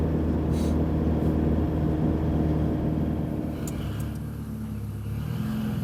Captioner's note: engine noise